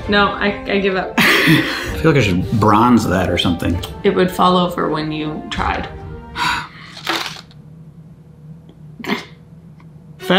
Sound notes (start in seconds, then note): 6.3 exhales; 6.9 cards falling on table; 9.1 chuckles